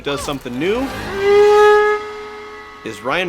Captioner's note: blows horn